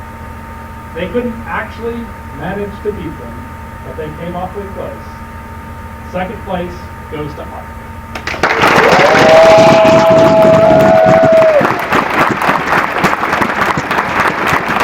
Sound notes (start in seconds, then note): 8.1 applause